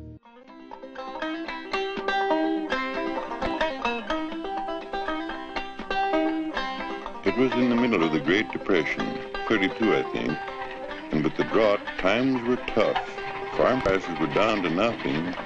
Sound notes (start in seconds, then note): 0.2 banjo music; 7.4 voiceover